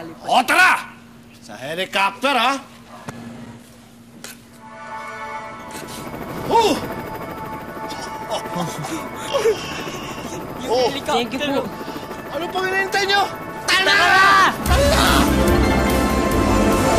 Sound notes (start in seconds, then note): 4.6 magical music plays; 4.6 helicopter blades whirring; 7.8 chuckles